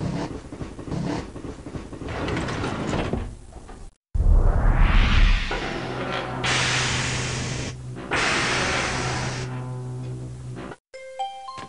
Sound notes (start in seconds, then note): 4.0 hot air rippling; 11.0 chimes